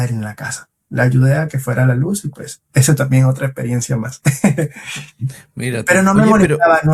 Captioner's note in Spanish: risas